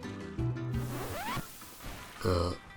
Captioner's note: record scratch